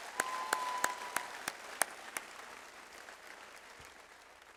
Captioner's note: audience applause